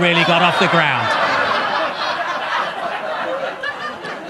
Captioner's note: audience laughs